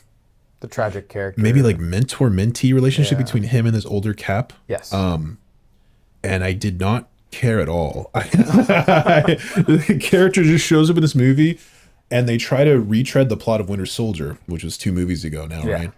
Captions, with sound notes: The tragic character. Maybe like mentor-mentee relationship between him and his older Cap. Yes. And I did not care at all. (both laughing) The character just shows up in this movie and they try to retread the plot of "Winter Soldier," which was two movies ago now, right?